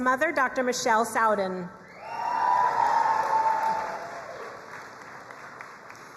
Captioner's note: crowd cheering and applauding